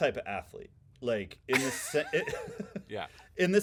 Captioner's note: laughing